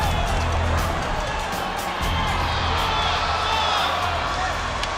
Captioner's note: crowd cheering; shouting